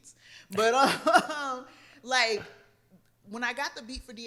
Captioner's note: laughs